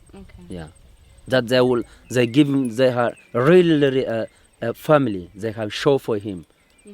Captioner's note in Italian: Inglese